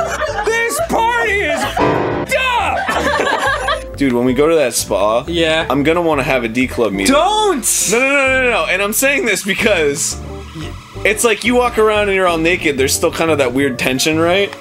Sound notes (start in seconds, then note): 2.6 everyone laughing